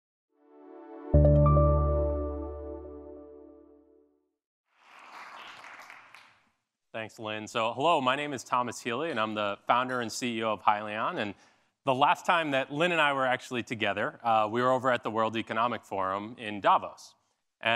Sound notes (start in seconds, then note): 0.4 bright music; 4.7 audience applauding